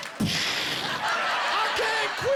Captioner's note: imitating gunfire